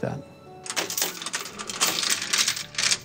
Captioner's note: chain clanking